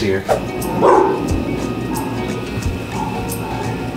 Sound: barking

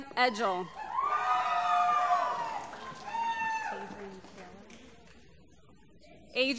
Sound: cheering

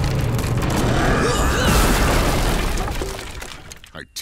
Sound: crashing

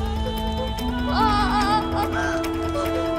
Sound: wincing

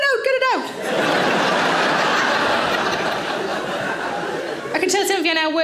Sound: audience laughing

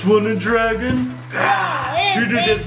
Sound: roars

